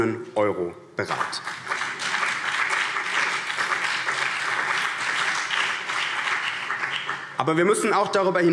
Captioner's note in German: Beifall BÜNDNIS 90/DIE GRÜNEN und vereinzelt CDU